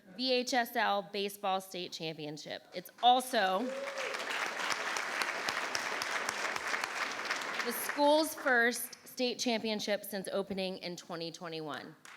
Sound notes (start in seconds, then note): 3.5 audience clapping and cheering